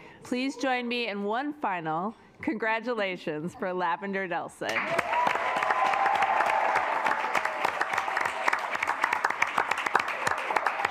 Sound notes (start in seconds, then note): 4.7 assembly cheering; 5.0 assembly clapping